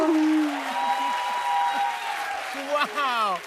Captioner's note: cheers and applause